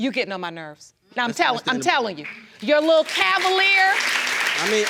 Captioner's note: audience applauding